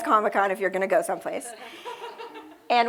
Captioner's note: laughter